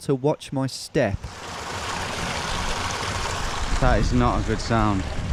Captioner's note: water flowing